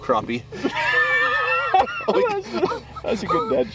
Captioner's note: laughing